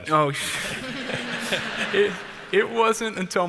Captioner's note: audience laughs